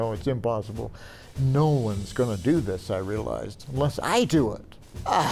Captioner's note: groans